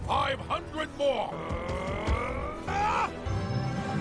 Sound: battle cry

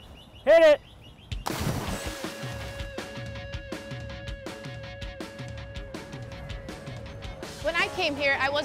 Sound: splash, music

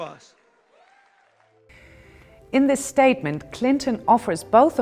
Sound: cheers, applause

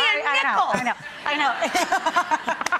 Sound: laughter

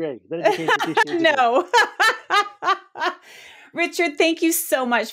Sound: laughs

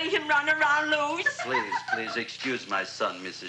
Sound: Audrey giggling

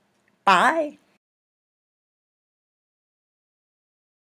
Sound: silence

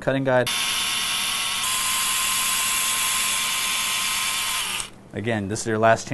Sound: drilling sound

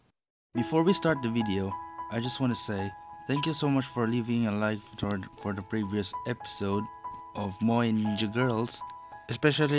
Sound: stuttering

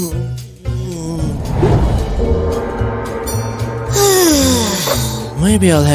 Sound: sighing loudly

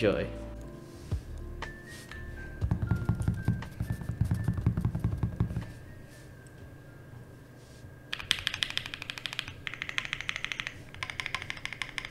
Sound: epic Typing Sounds

